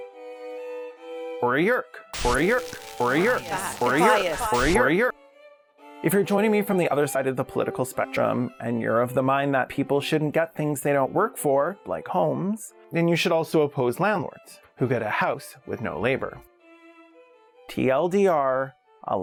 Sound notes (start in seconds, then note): 2.1 glitching